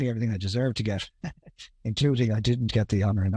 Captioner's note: chuckles